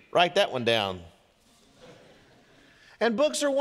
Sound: congregation laughing

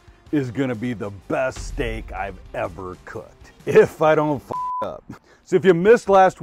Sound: beep

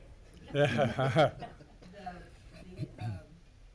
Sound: loud laughter

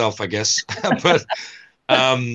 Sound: chuckling

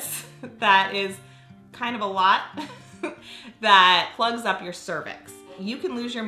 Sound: laughs

